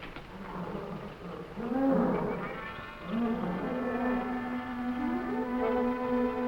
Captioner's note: gorillas groaning; tense music